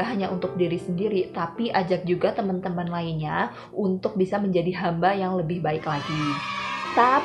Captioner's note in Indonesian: cheering kids